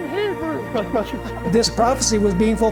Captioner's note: laughter